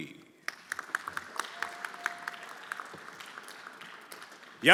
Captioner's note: everyone applauding